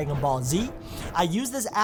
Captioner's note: whooshing